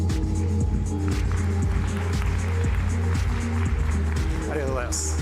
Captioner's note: applause